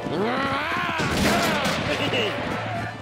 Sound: giggles

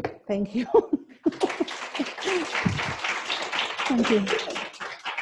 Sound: audience applauds

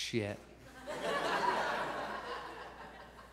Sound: audience laughs

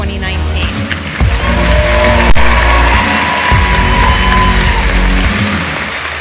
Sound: audience clapping and cheering

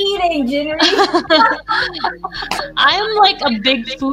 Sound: laughs

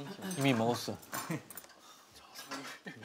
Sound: hehehe

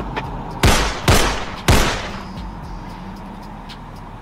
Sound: gunshots popping

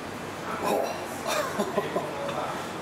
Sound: laughing

